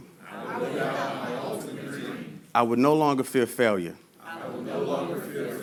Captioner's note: audience repeats; audience repeats